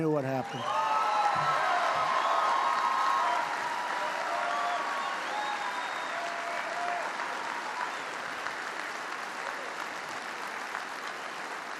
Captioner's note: applause